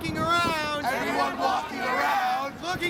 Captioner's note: crowd Responds